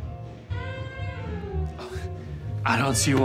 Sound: Ben nervously laughs

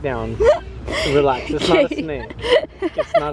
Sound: chuckles

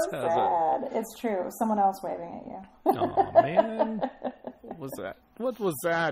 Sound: laughs

